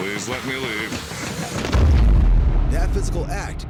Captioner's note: boom